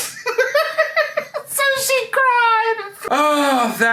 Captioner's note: laughing